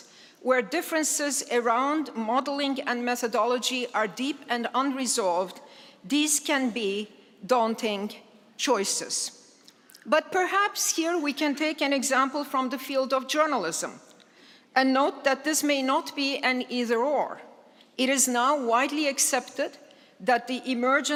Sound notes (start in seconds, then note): none